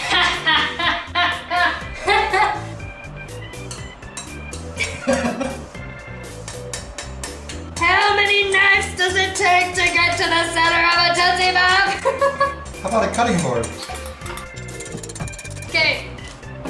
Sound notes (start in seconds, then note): 0.0 laughs; 4.8 laughs; 6.4 metal tapping